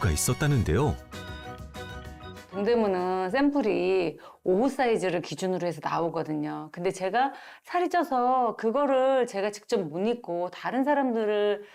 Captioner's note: voiceover